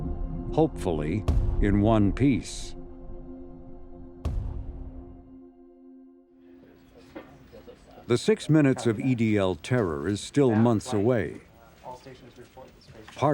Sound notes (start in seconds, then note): 4.2 lander bangs; 6.7 murmurs